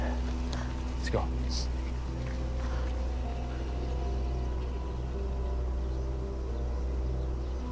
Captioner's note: birds chirping; tense music